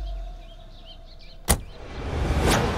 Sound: door closes

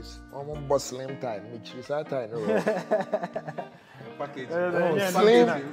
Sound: laughter

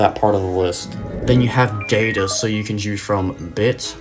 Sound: data Sound Effect

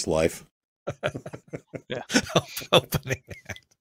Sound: chuckles

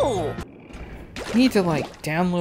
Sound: creaking

